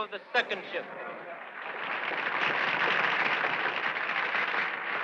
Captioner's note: crowd applauding